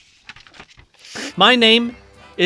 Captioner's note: exasperated noise